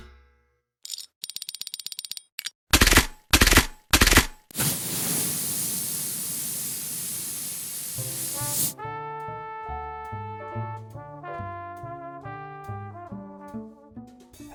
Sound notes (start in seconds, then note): 0.0 ratcheting metal; 0.3 metal ringing; 2.8 loud cranking